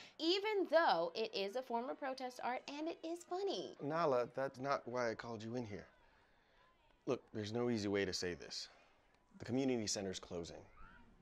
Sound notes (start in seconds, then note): none